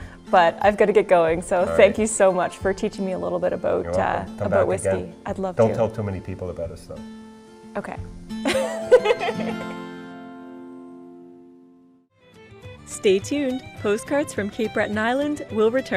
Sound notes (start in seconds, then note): 8.5 laughs